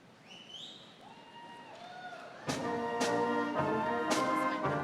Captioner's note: audience cheering